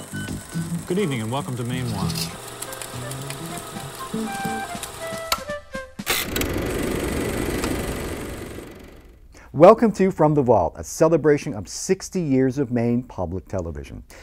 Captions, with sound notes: - Good evening and welcome to Mainewatch (upbeat music) (projector clicking) Welcome to From The Vault, a celebration of 60 years of Maine Public Television.